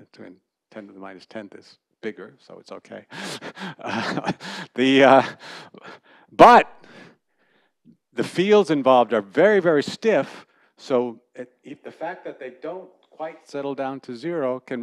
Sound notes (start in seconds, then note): 3.8 laughter